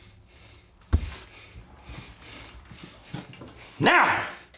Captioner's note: Donovan huffing